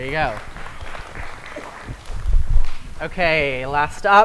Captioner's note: applause